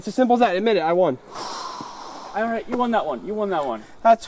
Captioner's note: sighs